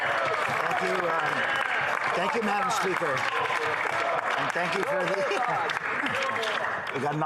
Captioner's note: some Applause